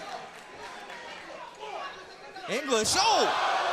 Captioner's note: crowd chatter